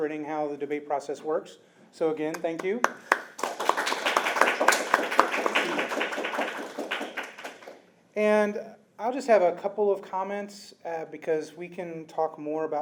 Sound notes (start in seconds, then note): 2.3 applause